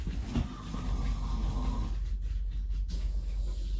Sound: snore

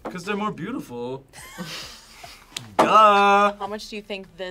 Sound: both laugh

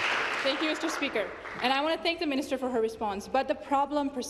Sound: applause

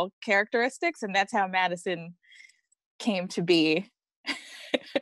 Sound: laughs

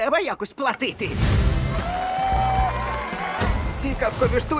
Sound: crowd clapping and cheering

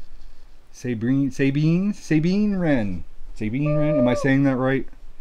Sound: stuttering

